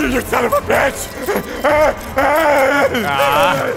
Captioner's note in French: Rugissement ursin